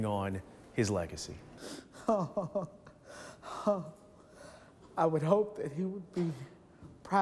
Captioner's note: laughs